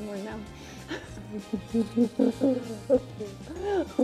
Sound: laughs

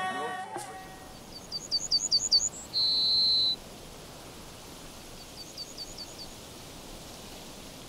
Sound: birds chirping

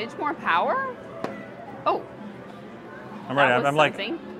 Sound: thump

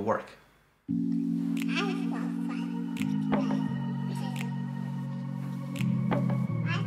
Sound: serene techno music; child babbling

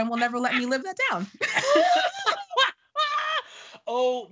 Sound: laughing

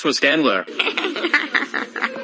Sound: giggles cutely

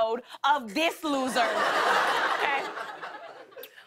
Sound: laughter

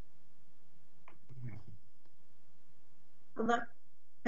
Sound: voice muffled

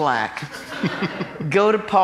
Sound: laughing

